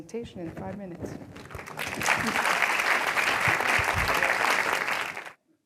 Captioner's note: applause